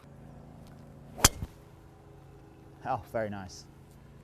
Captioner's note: hits ball